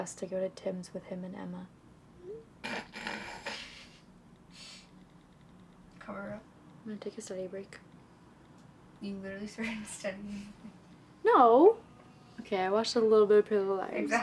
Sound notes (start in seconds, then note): 2.6 snorts; 5.2 taps buttons